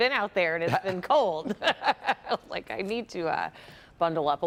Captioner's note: laughter